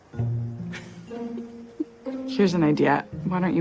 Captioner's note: laughs